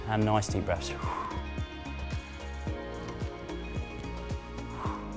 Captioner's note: exhales